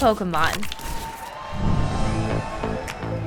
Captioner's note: cheering